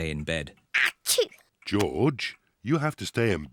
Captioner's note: sneezes